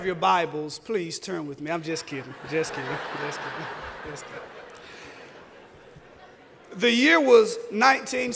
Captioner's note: laughter